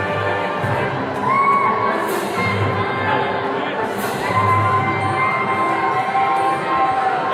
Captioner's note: jubilant music; attendees cheering